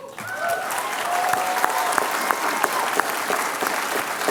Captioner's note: applause